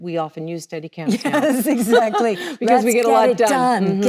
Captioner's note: laughs